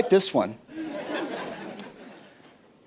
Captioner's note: laughter